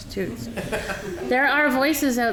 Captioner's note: audience laughing